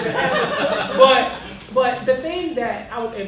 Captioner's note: laughter